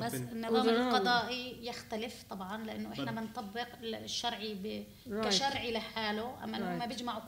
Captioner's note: speaking arabic